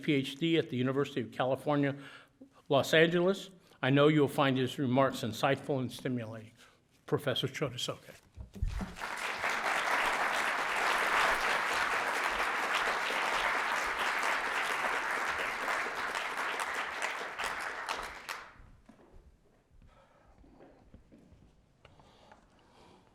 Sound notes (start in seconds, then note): 8.6 applause